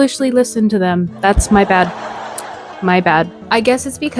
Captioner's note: laughtrack.mp3